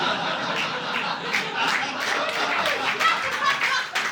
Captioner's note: audience laughing